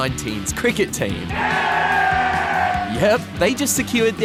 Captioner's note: cheering